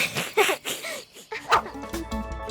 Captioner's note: Big Lizard and Cosima chuckling